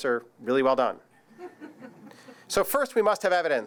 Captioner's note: audience laughs